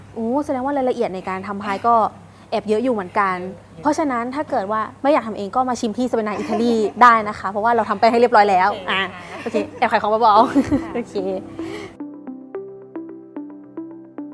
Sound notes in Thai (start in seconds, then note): 10.4 เสียงหัวเราะ